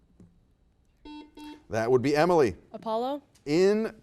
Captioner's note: buzzer beeps